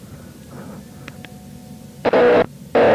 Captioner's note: button clicks; distorted buzzing tones